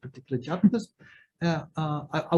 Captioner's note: chuckles